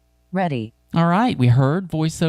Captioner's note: automated Female Voice